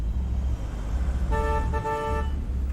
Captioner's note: horn honks